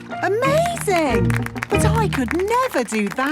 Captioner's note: clapping